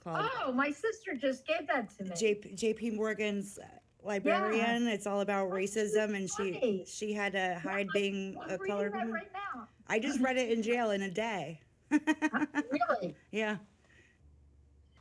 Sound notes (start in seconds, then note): 11.9 laughing